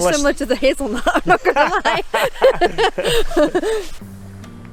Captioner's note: laughs